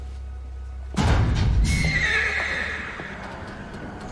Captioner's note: metal clanks; horse neighs